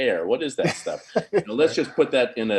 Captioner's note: chuckling